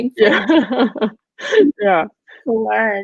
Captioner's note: women laughing